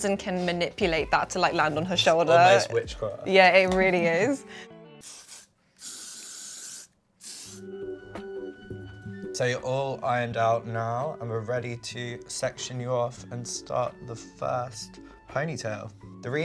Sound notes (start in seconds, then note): 5.2 hairspray spraying; 7.4 gentle upbeat music